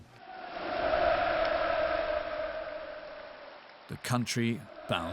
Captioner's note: people cheering